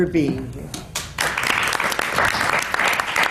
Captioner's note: applause